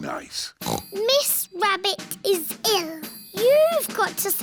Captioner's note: snorts